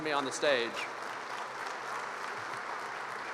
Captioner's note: applause